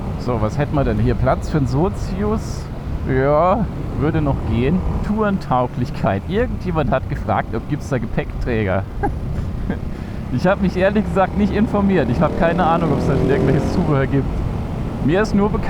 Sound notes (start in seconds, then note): 8.8 german giggles